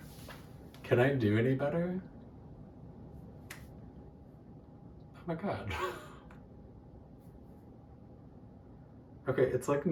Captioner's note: claps; joyful laugh